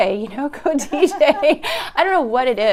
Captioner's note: laughs